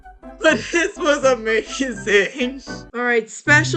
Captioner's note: giggling